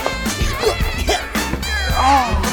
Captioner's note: grunting